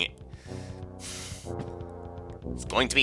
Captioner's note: breathing